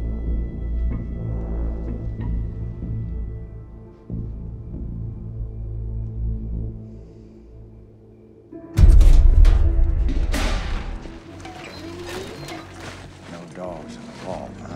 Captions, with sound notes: (trash thumps) No dogs in the vault huh?